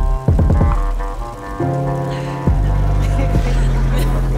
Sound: projector rolling; laughter

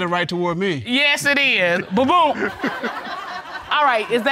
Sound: all laughing

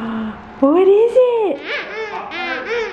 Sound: toy squeaks

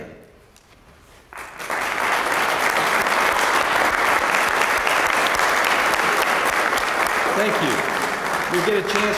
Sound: applause

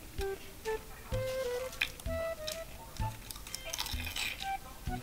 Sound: chewing in unison

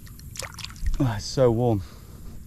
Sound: water splashes

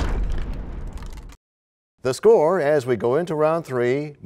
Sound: crashing sound

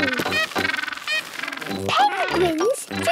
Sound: honking

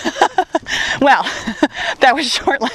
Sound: laughs

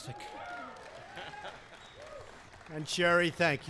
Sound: applause

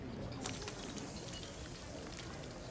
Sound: sizzling

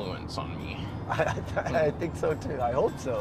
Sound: laughs

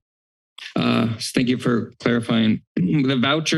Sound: clears throat

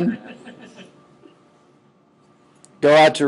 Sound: scattered chuckling

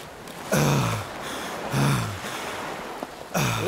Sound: catching Breath

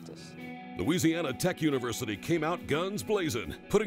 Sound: voiceover

